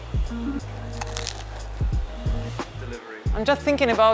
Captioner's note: bread crunching